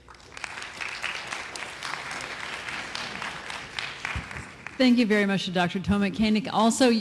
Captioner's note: applause